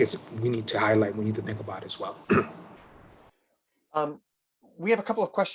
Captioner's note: clears throat